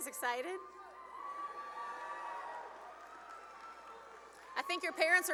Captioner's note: cheering and applause